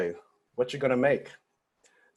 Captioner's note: foreign language